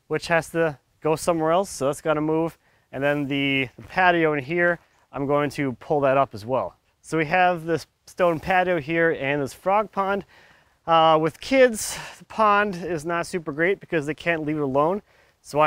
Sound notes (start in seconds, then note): none